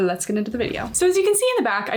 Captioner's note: graphic whooshing